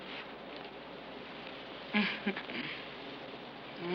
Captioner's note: chuckles